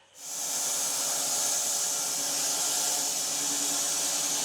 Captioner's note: saw whirring